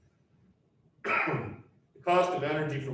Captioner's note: coughs